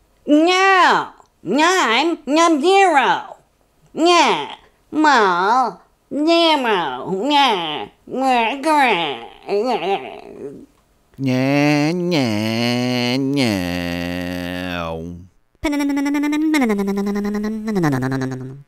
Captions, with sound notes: J. Grizzle> oh yea mine is a zero yes zero [ mumbles ] [ funny motor sound ] [ funny motor sound ]